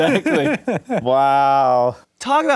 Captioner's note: laughing